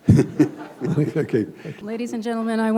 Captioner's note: chuckle